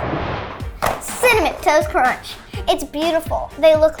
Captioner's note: animated explosion booming; cereal box thudding